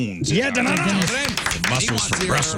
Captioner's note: clapping